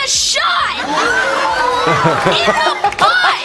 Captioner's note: people gasping